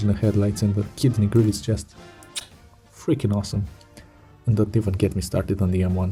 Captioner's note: chef’s kiss